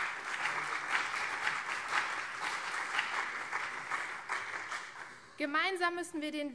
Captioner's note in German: Beifall CDU und vereinzelt SPD